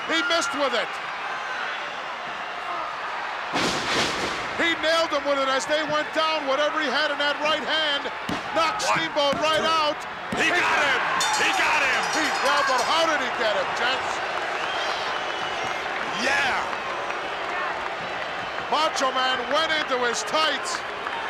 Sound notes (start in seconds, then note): 10.7 bell rings; 14.8 crowd boos